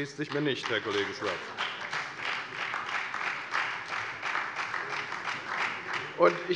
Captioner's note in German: Beifall bei der FDP, der SPD und der LINKEN